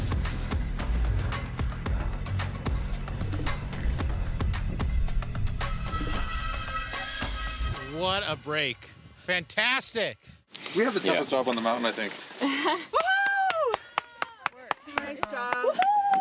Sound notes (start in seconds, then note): 12.9 clapping loudly